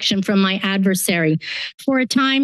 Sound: inhales

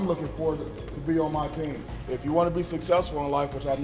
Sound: none

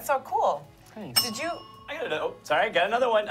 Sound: bell dings

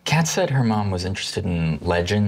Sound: none

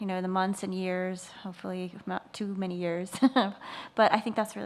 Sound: laughs

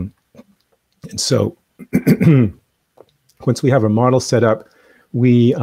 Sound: coughs

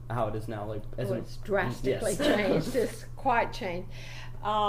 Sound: laughs

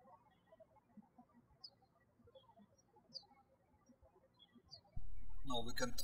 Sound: birds chirping

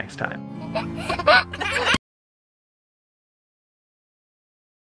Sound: laughs

